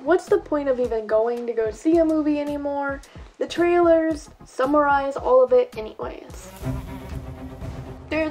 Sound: buzzing

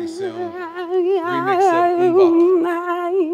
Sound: laugh

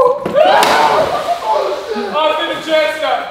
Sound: water splashes

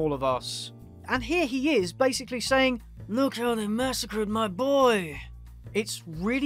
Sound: in an accent

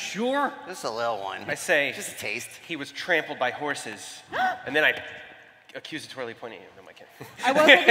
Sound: laughter

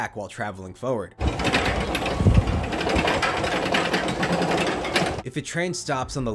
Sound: clacking loudly

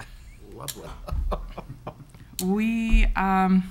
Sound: chuckles

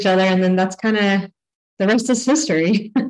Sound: laughs

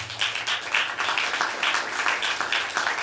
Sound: applause

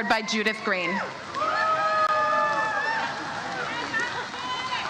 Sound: audience cheers

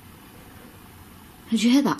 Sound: wind blows

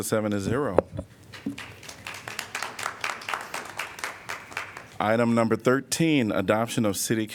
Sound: applause

